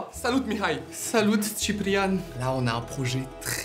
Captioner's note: Romanian accent